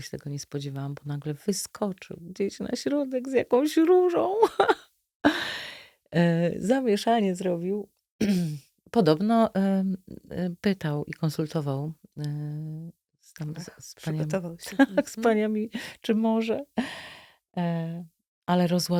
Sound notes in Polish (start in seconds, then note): 4.4 śmiech; 5.3 wciągnięcie powietrza; 14.7 śmiech